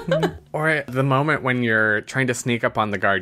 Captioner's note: laughs